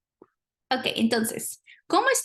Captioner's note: speaking spanish